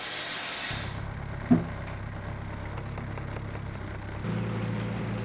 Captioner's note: engine idling